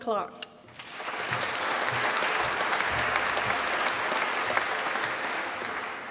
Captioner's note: applause